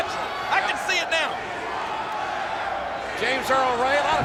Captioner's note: crowd chanting "We want Flair!"